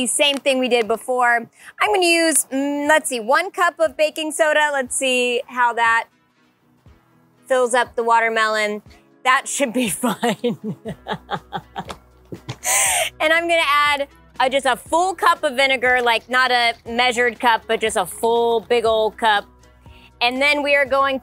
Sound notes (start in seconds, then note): 11.7 laughs